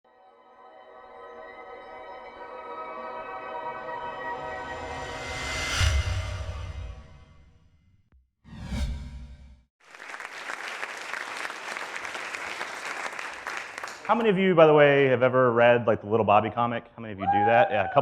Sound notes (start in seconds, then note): 0.9 dramatic music; 9.8 audience applause